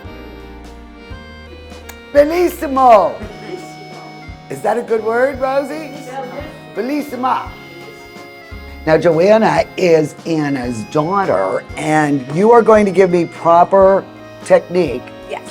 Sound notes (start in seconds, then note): 1.8 lips smack; 2.7 speaking in foreign language; 6.1 speaking in foreign language